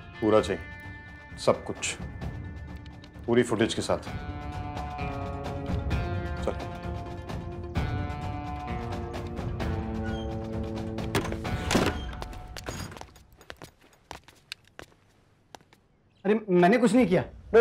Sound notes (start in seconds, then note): 9.8 door opens; 11.9 footsteps; 12.6 door sound